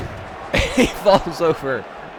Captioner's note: laughs